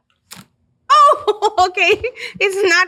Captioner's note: laughs